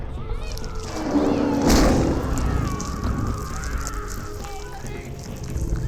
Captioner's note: screams; roars